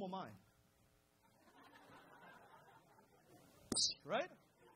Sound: crowd laughs

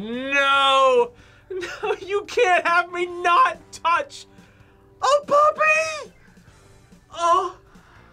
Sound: laughs

